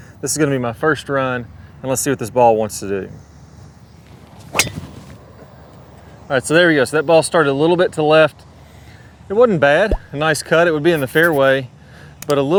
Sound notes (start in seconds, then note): 4.5 golf club striking golf ball